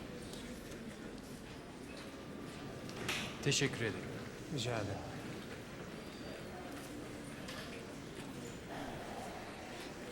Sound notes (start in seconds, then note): 3.7 speaking in a foreign language